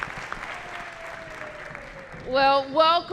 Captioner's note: applause